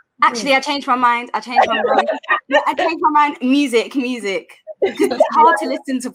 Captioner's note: everyone laughs